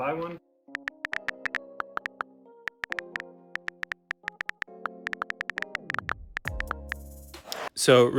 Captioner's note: iPhone clicky clicky